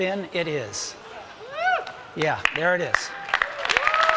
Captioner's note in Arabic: تصفيق